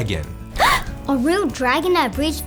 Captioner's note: girl gasps